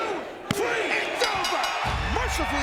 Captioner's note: crowd chanting; bell ringing